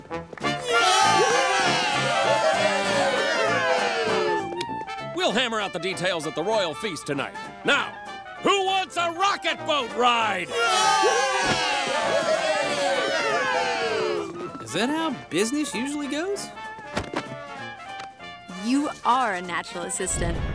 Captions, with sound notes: [cheering] We'll hammer out the details at the royal feast tonight. Now, who wants a rocket boat ride? [cheering] Is that how business usually goes? You are a natural assistant.